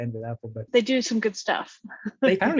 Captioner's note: laughs